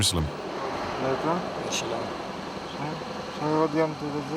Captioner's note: French spoken audio